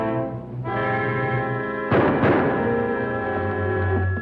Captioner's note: pounding